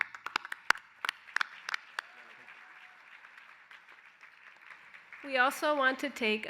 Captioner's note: applause